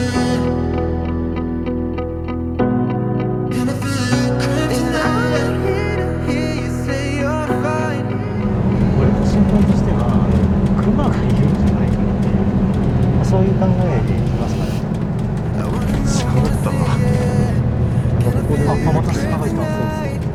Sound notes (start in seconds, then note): 13.7 bus horn blows